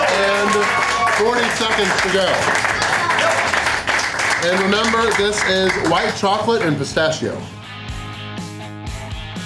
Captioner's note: crowd cheering; crowd applause